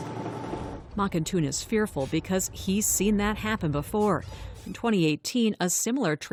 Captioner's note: voice-over